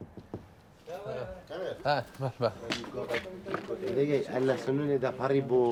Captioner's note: speaking foreign language